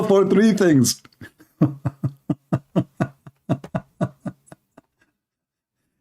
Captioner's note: Ketawa